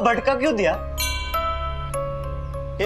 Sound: bell clanging

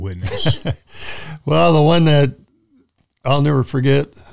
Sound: chuckles

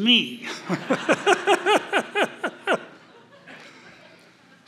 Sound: laughter

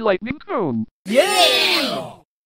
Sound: BFDI yeah sound effect

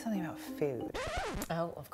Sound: record scratch

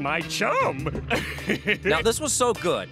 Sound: laughing

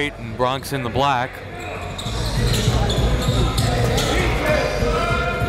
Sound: players and referees bustling

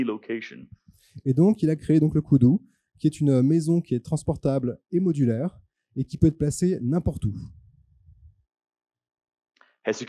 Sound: translating into french

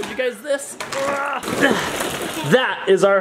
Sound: groans

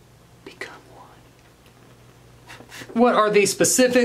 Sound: hisses

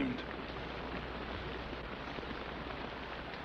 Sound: rain patters

